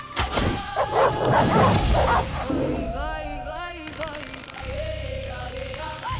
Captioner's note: barking